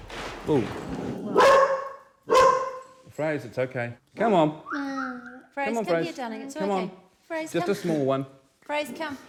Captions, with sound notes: [Dog barks] Ooh! [Dog barks] Fraser, it's ok! Come on! [Whistles] Fraser, come here darling, it's ok! - Frase, come! - Just a small one!